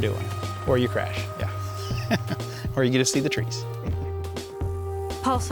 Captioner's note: laughs